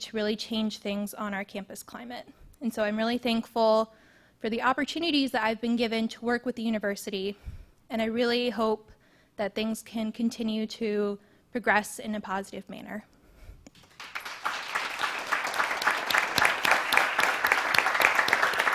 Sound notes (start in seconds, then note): 13.7 audience applauding